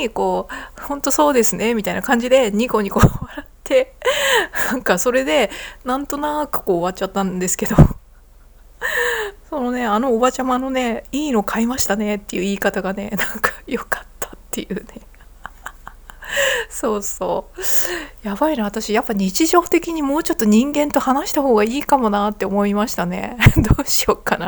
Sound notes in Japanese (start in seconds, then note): 4.2 笑い; 8.3 息をのむ音; 9.1 笑い; 14.9 笑い; 24.0 笑い